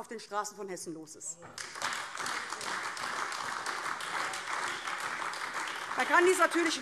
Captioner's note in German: Beifall AfD